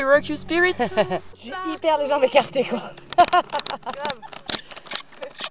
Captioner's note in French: rires